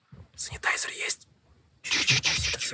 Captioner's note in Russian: шепотом